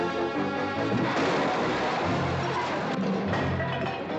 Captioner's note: loud crash